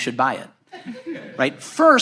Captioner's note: audience laughs